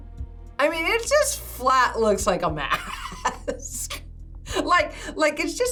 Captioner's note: laughs